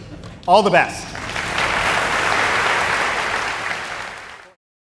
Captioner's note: applause